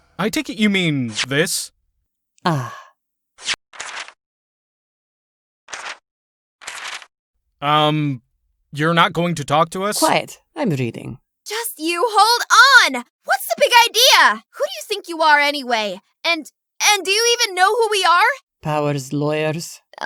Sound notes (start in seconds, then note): 3.8 paper rustling; 6.6 paper rustling